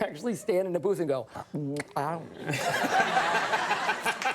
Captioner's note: imitates sloppy mouth sounds; laughs; audience laughs